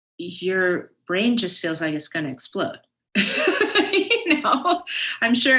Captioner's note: laughs